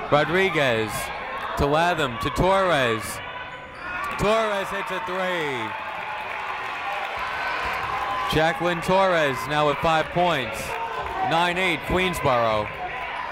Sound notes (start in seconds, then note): 5.5 people cheering in the crowd